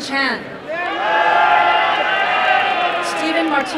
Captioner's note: applause and cheering